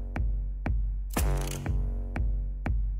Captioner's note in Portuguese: arma engatilha